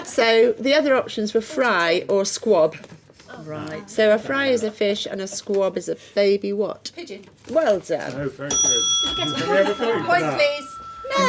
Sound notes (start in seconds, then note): 8.7 buzzing